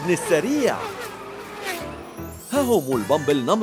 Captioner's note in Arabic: صوت محركات